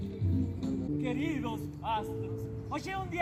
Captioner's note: speaking in Portuguese